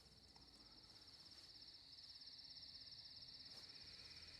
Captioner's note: insects chirping